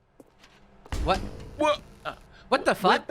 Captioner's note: lights flicker on